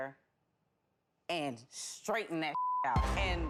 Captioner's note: beep